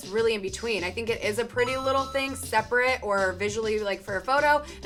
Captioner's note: bell chimes